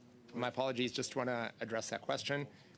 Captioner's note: speaking French